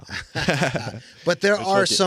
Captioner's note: laughing